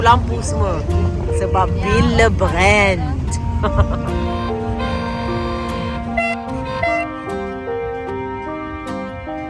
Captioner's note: laugh; air horn sound; background music